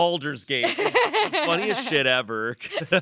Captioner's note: laughs